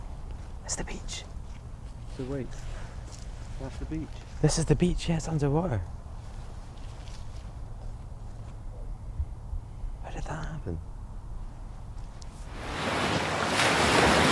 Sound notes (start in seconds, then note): 0.8 whispers